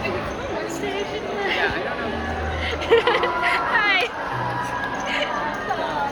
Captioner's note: laughing